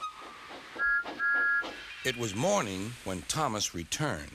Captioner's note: whistles